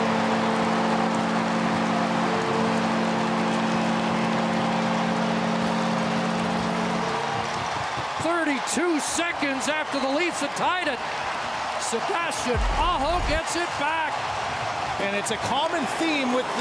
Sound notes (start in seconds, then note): 3.8 horn Sounding; 5.2 cheering and Applause